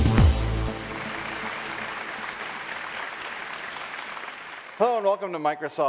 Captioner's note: audience applauding